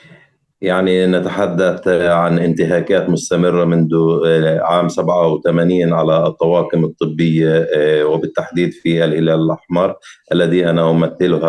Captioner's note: speaking arabic